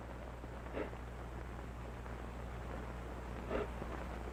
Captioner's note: sniffling